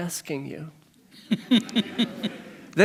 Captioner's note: chuckles